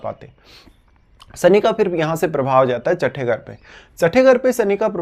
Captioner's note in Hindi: नाक से की जाने वाली आवाज़